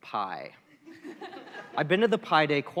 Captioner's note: laughter